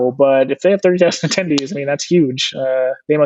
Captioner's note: chuckles